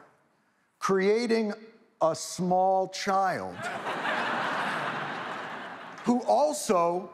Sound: audience laughs

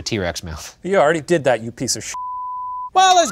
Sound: beep

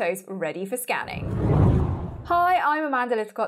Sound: scene whooshes

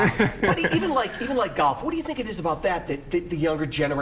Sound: laughter

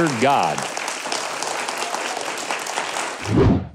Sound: audience clapping

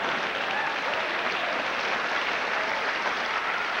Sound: applause

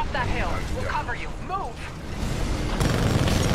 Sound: radio

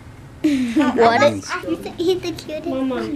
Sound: laughter

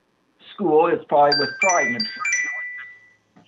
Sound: chime

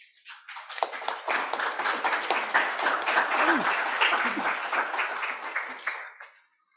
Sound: applause

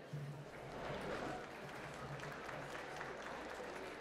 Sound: applause

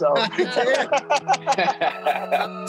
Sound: man laughs

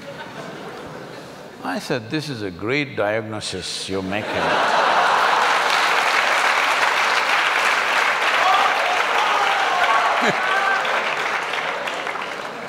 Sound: laugh; laugh & Applauds

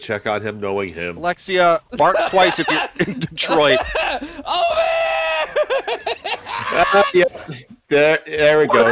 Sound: panicked screaming

